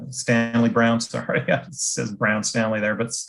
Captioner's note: laughs